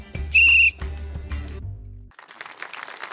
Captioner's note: trills whistle; applause